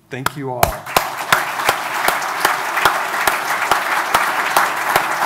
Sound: audience applauding

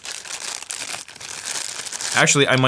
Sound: unwrapping packaging

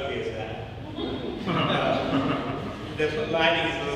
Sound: audience laughing

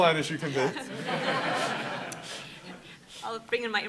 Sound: laughing

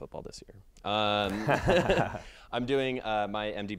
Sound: laughs

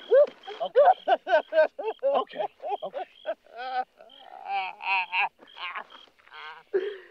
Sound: Skeeter weeping

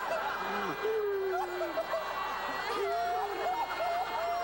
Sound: crying

